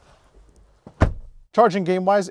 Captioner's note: car door thuds